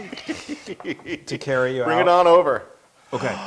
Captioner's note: laugh